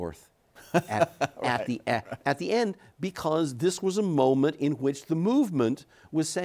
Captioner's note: laughs